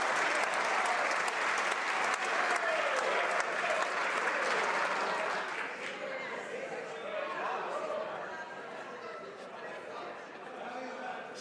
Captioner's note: some Applause